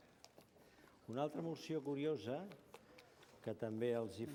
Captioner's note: non-english speech